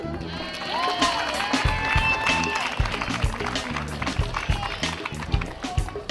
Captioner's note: audience cheering and applauding